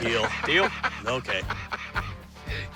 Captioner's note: laughs